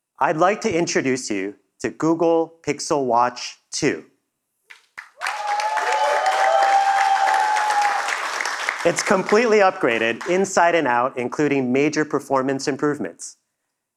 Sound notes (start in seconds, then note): 5.0 audience cheering; 6.8 applause